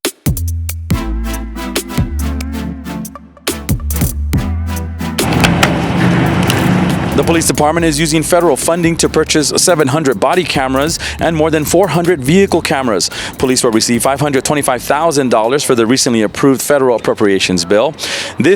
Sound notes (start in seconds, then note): 0.1 upbeat music; 5.2 machine rattling